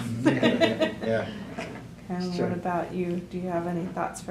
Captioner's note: laughter